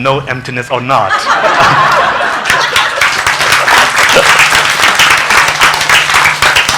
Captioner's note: congregation laughing and applauding